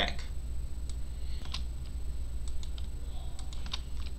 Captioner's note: mouse clicking